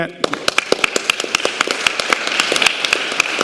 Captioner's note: applause